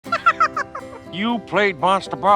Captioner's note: Elmo laughs